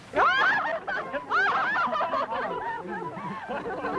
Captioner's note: laughing and taIking